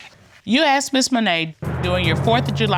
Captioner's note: none